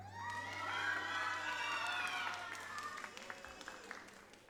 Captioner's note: audience applauds